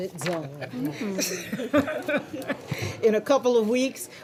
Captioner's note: laughter